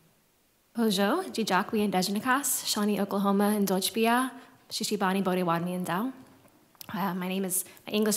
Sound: non-english speech

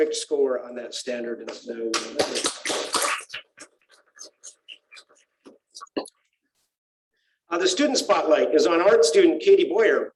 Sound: applause

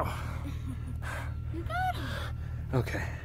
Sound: heavy exhales; heavy breathing

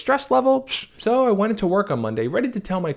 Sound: hisses

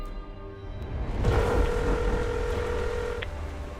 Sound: phone ringing

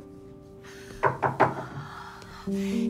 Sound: door knock

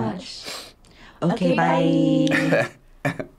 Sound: sniffs; chuckles

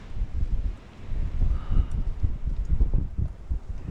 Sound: sighs

